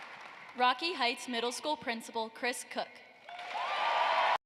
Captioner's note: cheering and applause